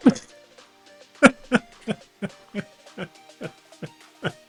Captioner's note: laughs